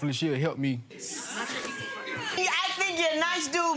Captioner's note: crowd groaning